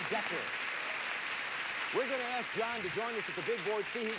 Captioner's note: audience applauding